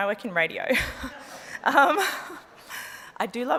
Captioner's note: laughs